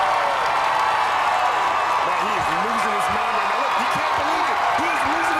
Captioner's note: cheers and applause